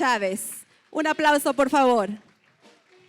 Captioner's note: non-english speech; applause